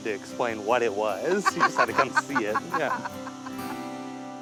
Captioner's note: laughs